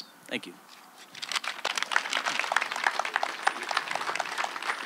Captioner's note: applause